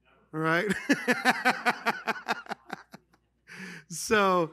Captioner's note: laughter